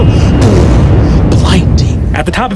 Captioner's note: impact reverberates